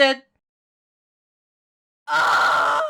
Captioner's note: scream